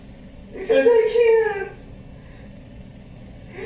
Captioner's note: sobbing